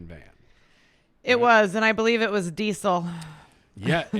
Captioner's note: laughs